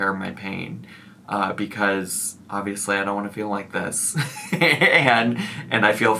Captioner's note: giggles